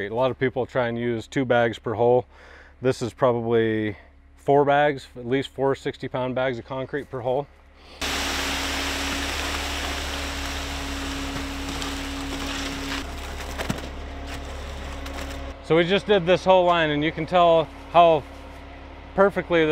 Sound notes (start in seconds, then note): 8.0 machine grinding; 13.7 mortar splatting